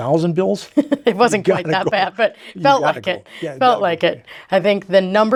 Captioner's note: laughs